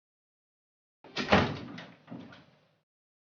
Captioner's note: thump